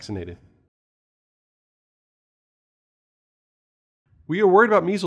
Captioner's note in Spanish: Sin audio